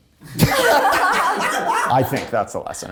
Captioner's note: cast laughing